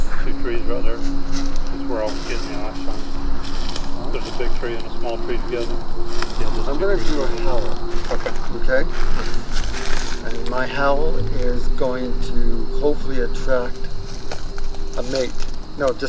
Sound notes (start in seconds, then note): 1.8 dramatic music; 3.7 rustling leaves